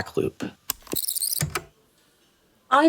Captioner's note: the tape whirrs fast forwarding and then plays